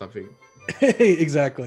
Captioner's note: laughing